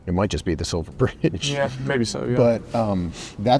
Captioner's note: laughs